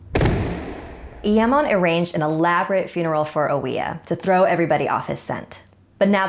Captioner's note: eeehm